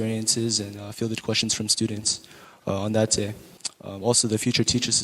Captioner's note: speaking faintly